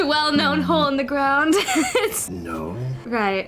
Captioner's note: laughter